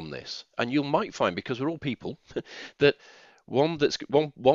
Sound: chuckles

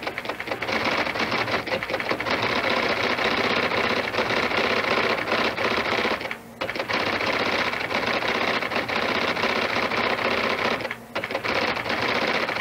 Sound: loud electric typewriter clacking

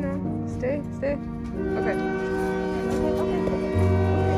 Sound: train horn blaring

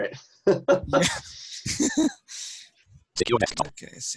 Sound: laughing

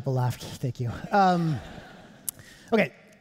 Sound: audience laughing

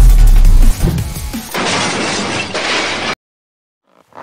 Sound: crash

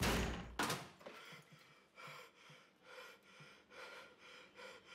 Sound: door bangs; breathing heavily

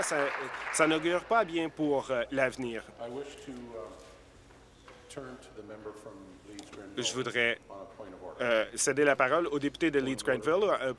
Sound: applause

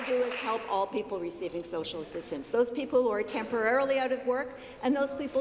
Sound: applause

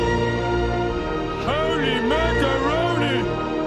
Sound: homer voice

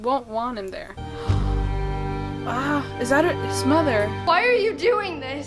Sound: gasps

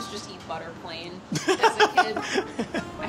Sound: laughs

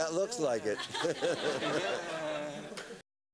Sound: laughter

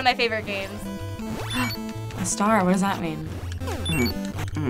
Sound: gasping

